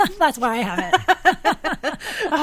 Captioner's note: laughing